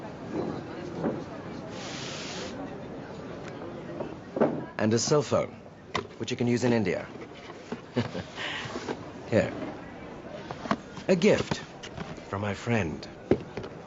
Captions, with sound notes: And a cell phone, which you can use in India. (chuckles) Here. A gift from my friend.